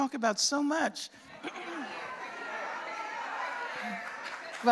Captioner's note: audience shouting; applause